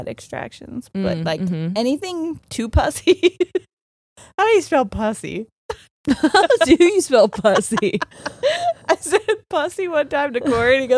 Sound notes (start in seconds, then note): 2.3 laughs; 6.0 both laughing